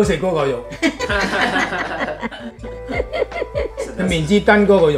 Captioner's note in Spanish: Risas